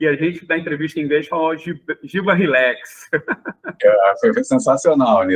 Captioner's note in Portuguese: risadas